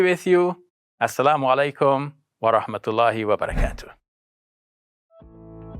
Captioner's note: speaking in foreign language